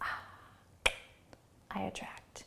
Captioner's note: clicking tongue